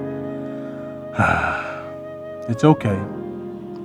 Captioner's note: sigh